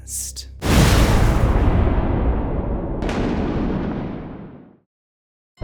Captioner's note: thunder